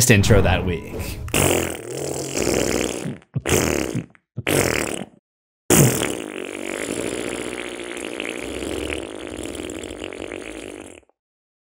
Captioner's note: poop noises